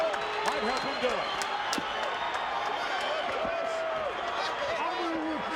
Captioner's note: crowd yelling